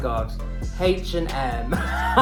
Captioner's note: laughs 'cos it's funny